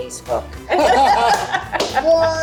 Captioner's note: group laughs